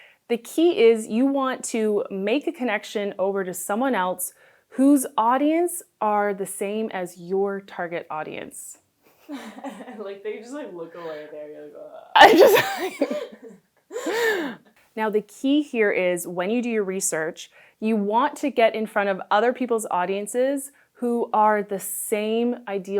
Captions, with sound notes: The key is you want to make a connection over to someone else whose audience are the same as your target audience... Like you just like look away... [laughs] Now, the key here is when you do your research, you want to get in front of other people's audiences who are the same ideal